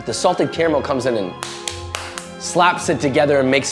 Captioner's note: hand slapping